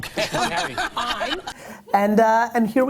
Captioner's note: laughter